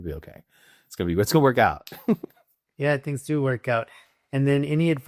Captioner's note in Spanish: Riendo